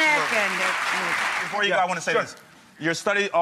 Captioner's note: audience applauds